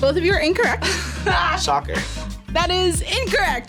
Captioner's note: laughs